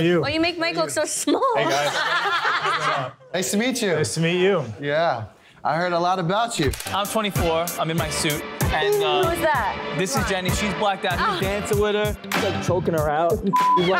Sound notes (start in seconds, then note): 1.6 laughing; 13.5 beep